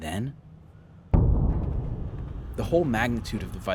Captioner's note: thunder rumbling